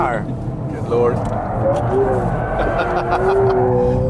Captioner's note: he laughs